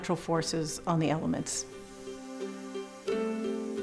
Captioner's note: air blowing through tube